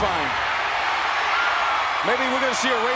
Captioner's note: audience cheering